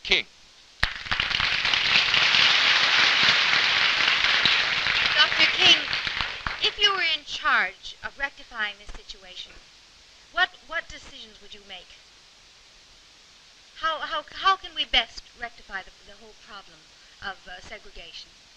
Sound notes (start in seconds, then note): 4.3 applause